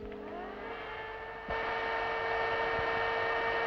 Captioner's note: whirring